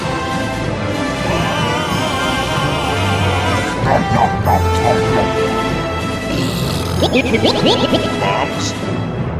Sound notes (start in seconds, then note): 6.2 burps